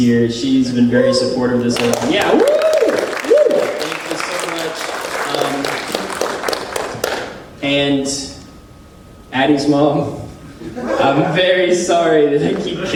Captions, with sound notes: She has been very supportive this whole, yeah (cheers). (audience applauding) Thank you so much. And Addi's mom, I'm very sorry that I keep killing him.